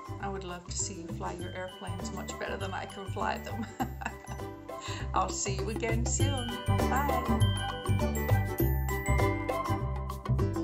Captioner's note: laughs